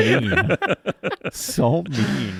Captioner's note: laughing